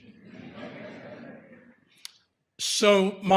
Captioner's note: audience laughter